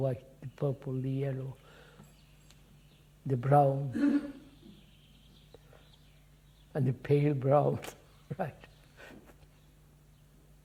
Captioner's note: laughs